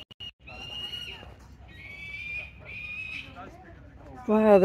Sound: seagulls screaming

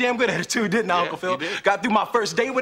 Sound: Will laughs

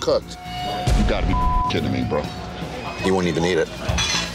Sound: beep

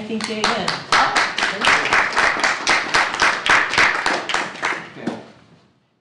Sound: applause

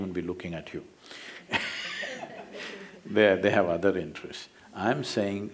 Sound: laughter

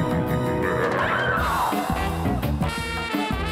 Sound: screaming; upbeat music playing

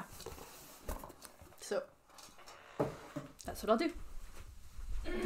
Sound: box shuffling; clears throat

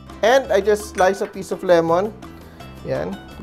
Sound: clang

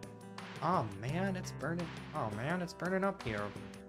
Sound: bad New your accent

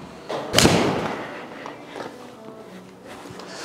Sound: ball thuds

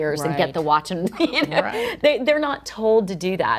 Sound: chuckles

